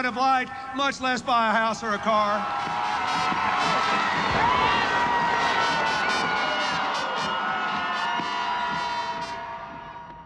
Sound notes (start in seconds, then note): 1.8 crowd cheering, band playing; 8.3 cheering fades